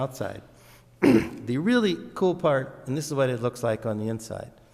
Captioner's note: clears throat